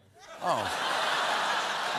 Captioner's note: laughter